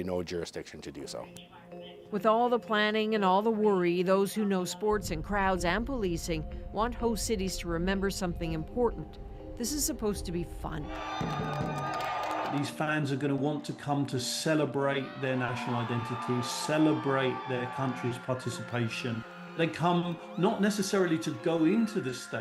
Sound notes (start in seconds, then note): 14.9 cheers and applause